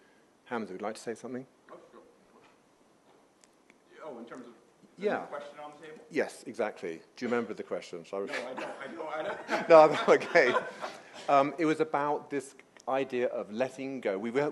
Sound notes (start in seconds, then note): 8.2 laughter